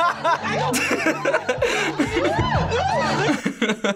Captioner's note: women speaking gibberish; laughs